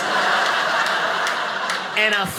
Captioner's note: audience laughing